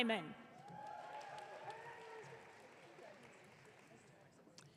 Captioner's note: audience cheering